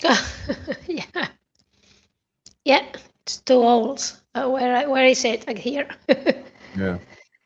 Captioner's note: laughter